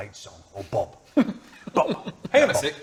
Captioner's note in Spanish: se ríe